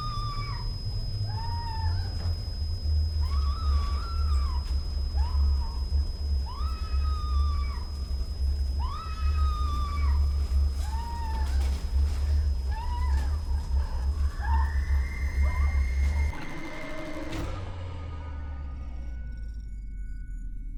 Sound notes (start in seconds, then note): 14.7 Olive screams; 18.2 eerie music